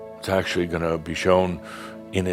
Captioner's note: none